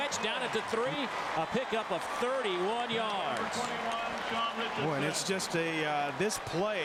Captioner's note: crowd noise